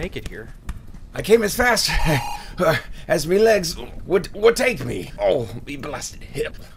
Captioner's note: panting